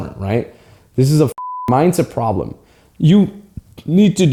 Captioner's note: beep